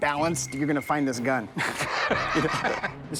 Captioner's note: laughs